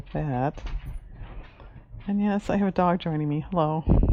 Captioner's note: dog walking on wood floor